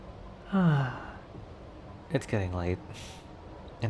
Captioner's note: chuckle